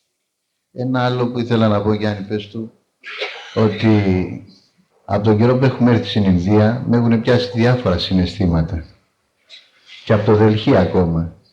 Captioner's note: translating in foreign language